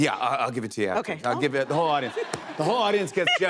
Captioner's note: laughter